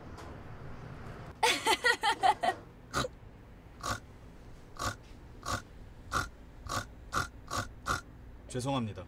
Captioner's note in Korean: 진아의 꿀꿀 거리며 웃는 소리